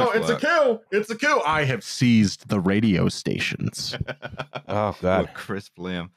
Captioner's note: crisp voice